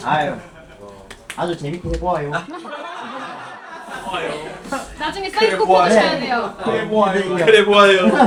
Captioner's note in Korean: 웃음